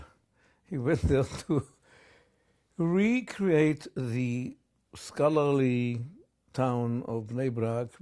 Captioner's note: laughs